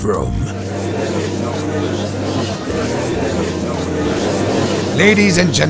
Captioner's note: gallery chattering